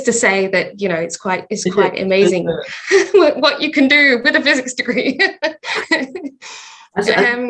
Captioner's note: laughing